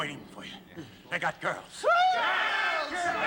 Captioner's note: all cheering